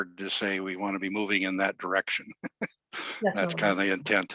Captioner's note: laughing